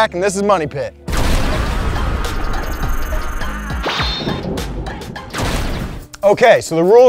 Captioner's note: thunder; hip hop beat